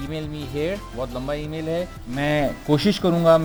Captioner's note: teeheehee